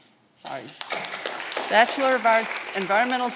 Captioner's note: audience clapping